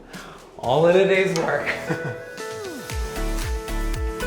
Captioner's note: giggles; mellow chill music